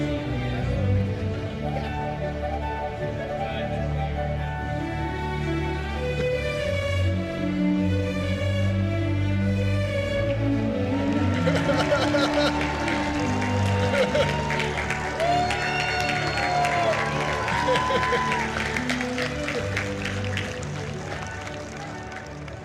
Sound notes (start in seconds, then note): 10.8 cheering; 10.9 applause